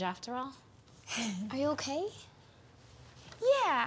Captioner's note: Eliza sighs